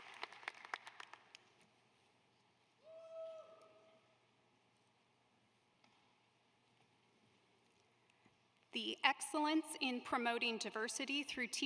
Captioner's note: applause